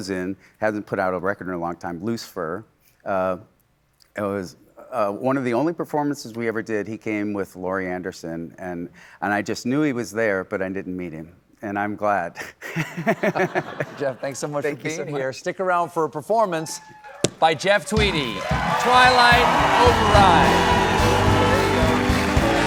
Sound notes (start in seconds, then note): 12.7 laughs; 19.4 cheers and applause